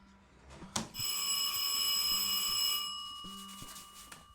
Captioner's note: doorbell rings